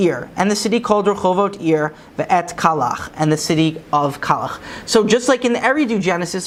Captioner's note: Hebrew; Hebrew